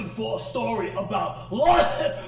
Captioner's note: coughs